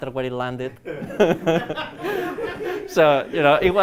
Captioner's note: laughter